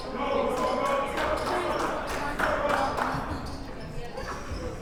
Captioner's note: clapping